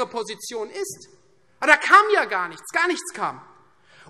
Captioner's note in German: none